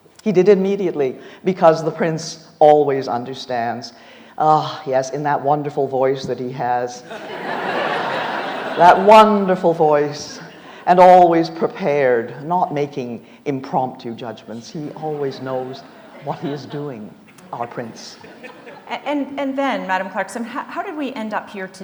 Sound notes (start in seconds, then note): 7.0 audience laughs